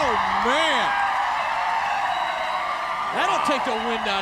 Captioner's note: crowd cheering